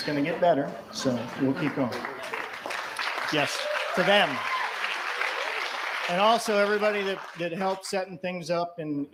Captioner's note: cheers & applause